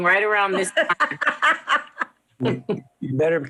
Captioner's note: laughs